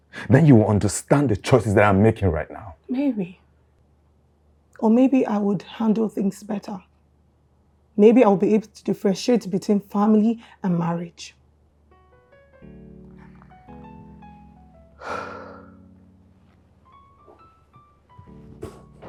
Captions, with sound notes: then you will understand the choices that i'm making right now. Maybe. Or maybe I would handle things better. Maybe I'll be able to differentiate between family and marriage. (Sighs)